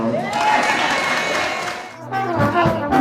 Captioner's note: cheering